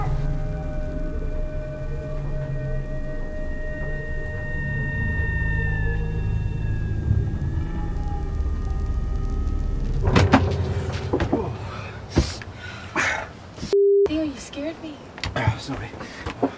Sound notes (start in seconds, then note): 0.6 ominous music; 9.9 door opening